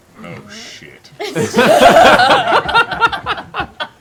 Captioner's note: laughter